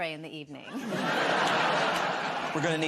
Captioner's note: laughter